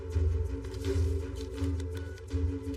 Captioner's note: phone beepingng